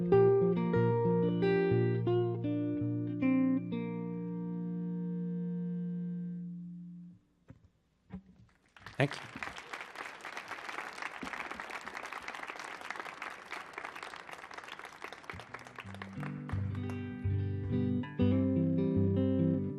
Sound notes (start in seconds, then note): 9.0 audience clapping; 16.1 gentle guitar strumming